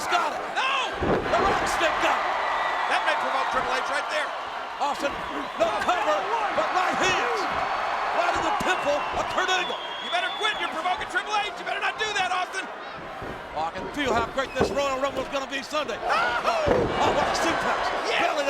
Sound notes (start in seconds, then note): 2.2 audience cheers